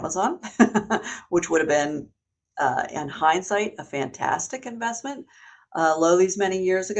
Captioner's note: laughs